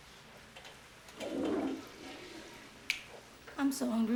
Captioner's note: toilet Flushing